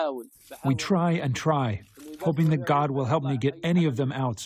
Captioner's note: through translator